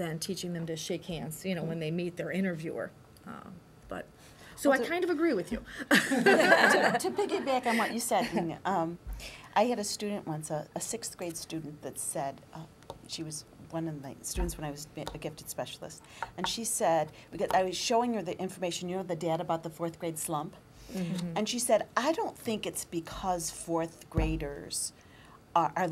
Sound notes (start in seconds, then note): 5.8 laughter